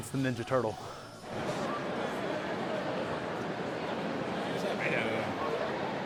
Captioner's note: people chatting